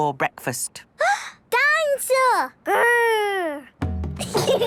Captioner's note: gasps; children giggling